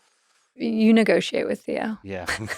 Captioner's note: laughs